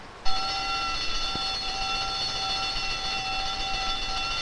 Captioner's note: alarm bell ringing